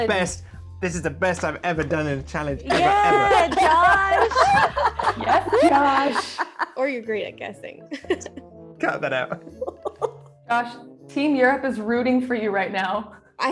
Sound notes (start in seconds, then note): 2.8 everyone laughs; 8.3 sarcastic music